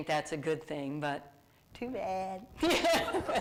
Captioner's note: laughs